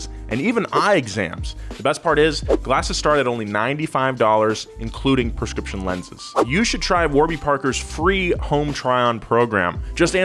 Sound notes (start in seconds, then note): none